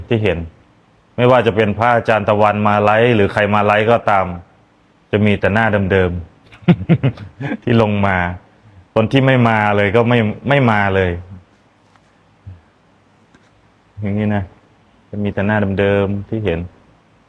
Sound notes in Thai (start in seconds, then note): 6.5 เสียงหัวเราะ